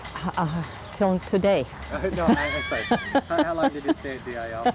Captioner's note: laughing